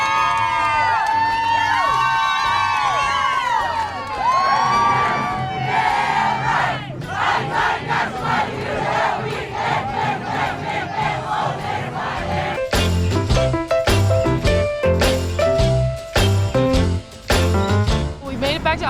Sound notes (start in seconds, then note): 6.3 chanting